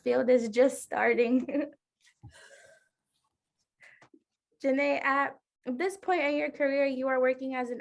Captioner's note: laughter